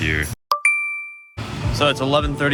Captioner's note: watch chimes